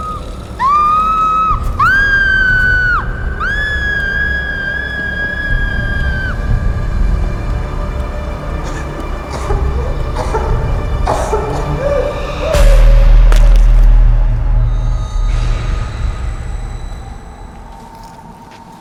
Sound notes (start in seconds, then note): 9.2 Christina coughs; 13.3 bone cracking